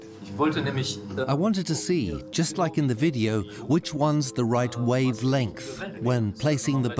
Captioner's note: in German; dubbed in English